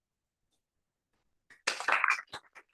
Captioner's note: applause